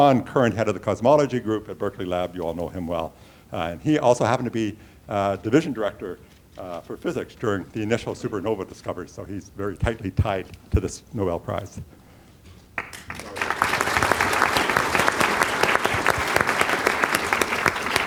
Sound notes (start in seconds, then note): 12.7 applause